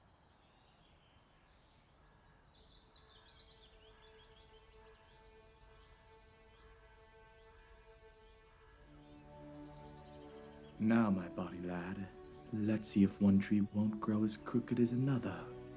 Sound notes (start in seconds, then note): 0.9 birds singing; 3.6 soft music